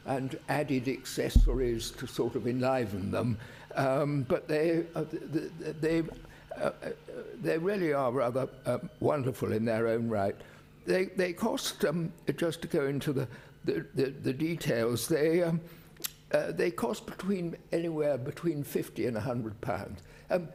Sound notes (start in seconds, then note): none